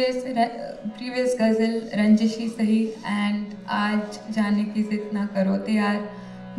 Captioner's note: non-english speech